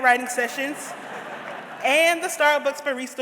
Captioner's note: audience laughs